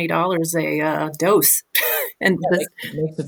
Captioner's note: chuckles